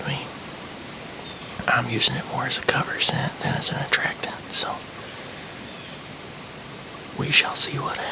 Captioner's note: whispering